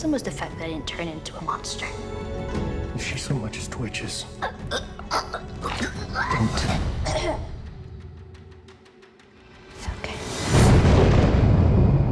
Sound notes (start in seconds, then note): 4.4 abruptly clears throat